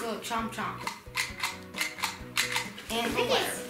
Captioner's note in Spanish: juguete haciendo clic